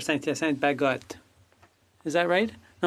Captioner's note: speaking French